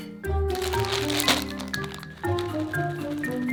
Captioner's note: bag crinkling